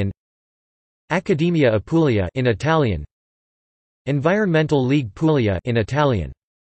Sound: in Italian; in Italian

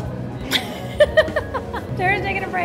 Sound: giggling

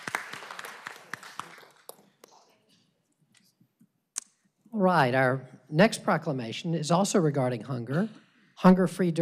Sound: applause

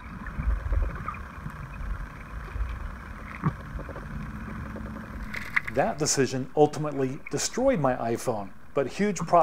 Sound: sound of river underwater

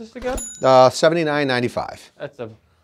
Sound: notification bell chimes

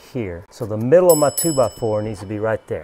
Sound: bell ringing

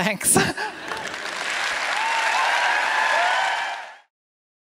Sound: applause

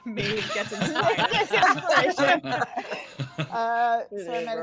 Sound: all laughing

